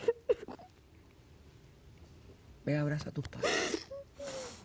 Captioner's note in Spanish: Sollozos